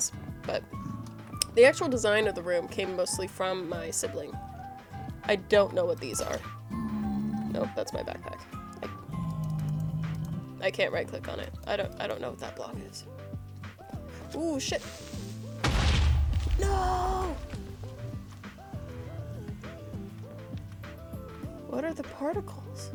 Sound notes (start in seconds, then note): 15.6 creeper explodes